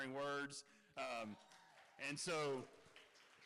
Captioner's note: cheering